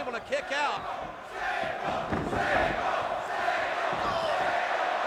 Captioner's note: crowd chanting